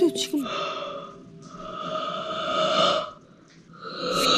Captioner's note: yawn